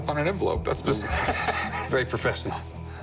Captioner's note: laughs